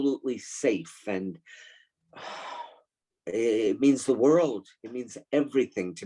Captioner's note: inhales deeply